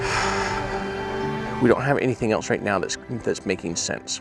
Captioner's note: sighs